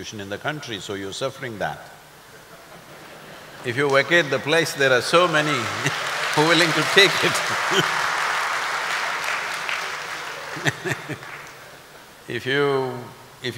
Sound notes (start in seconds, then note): 2.6 laughter/Applause; 8.5 laughs